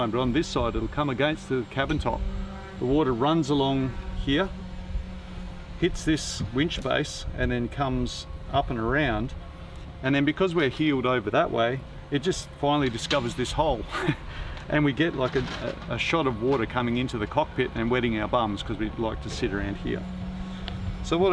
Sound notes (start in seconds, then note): 13.8 laughs